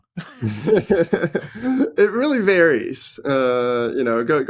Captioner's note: laughing